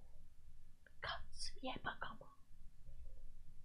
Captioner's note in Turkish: fısıldıyor